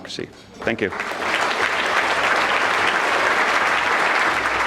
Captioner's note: audience clapping